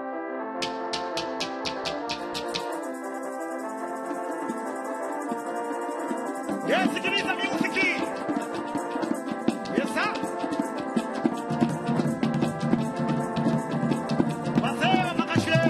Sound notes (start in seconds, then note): 6.7 man speaking in language other than English